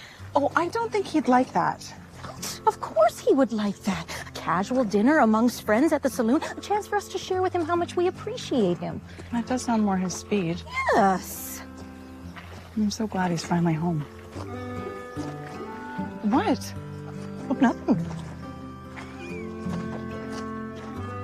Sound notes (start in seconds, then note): 19.1 Rosemary chuckles